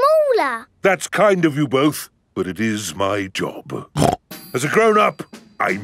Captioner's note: snorts